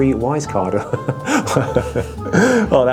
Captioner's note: laughs